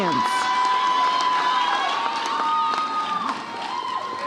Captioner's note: audience cheers